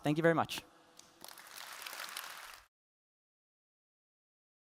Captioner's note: applause